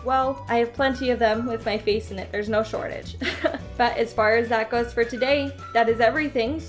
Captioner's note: awkward laugh